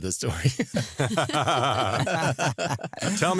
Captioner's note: laughter